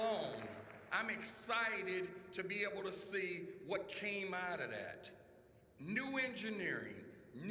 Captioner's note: applause